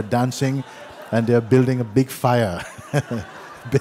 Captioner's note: laughter